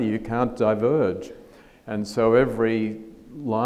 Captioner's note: none